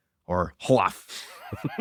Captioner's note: laughs